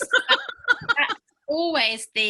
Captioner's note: laughing